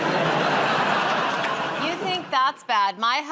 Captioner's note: laughter